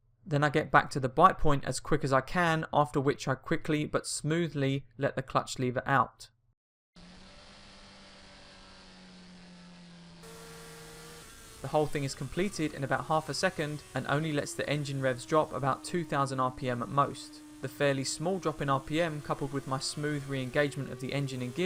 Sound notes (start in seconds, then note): 7.1 engine revving